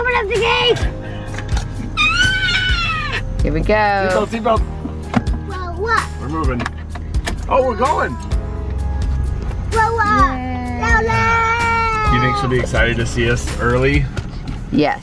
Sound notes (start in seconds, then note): 2.0 screaming